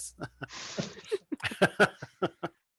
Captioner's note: laughter